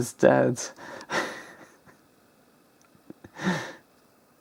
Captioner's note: ghostly laugh